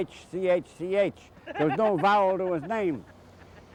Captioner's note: laughs